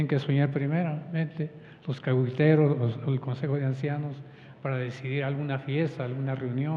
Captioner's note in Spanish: habla en wixárika